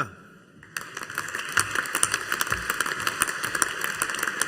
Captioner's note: audience applauding